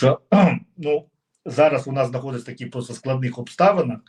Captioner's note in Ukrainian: прочищення горла